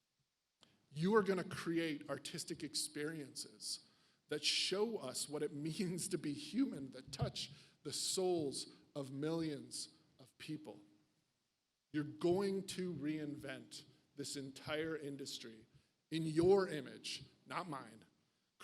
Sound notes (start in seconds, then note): none